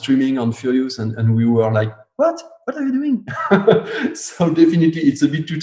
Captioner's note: laughs